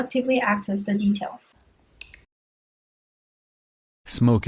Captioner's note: click sound